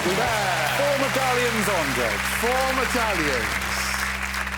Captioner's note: applause; whistle blows